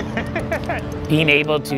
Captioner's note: laughing